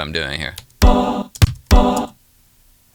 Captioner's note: tapping